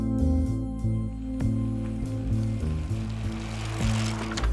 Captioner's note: bike rattling